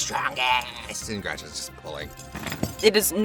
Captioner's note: chains rattle